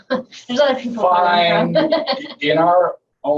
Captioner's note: laughing